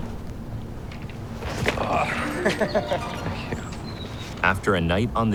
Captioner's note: groans